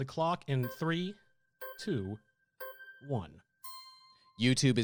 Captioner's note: melodic timer